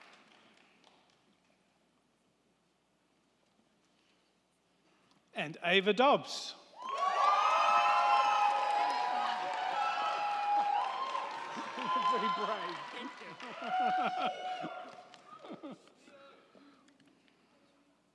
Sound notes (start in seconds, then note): 6.8 crowd cheering; 6.8 crowd clapping